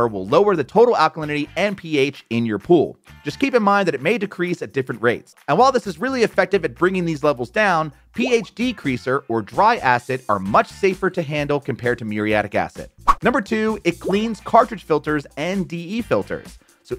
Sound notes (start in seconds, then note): 8.6 graphics popping; 13.0 graphics swishing; 13.0 graphics popping